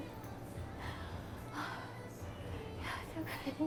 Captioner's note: breathing in